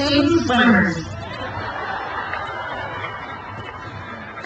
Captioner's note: crowd cheers